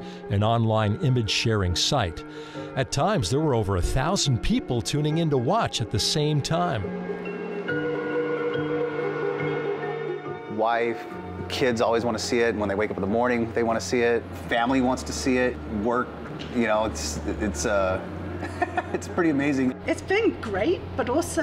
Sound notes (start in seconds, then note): 7.5 upbeat classical music; 18.4 laughing